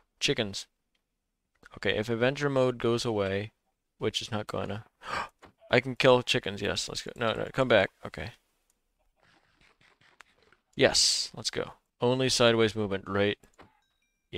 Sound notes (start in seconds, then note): 5.0 gasps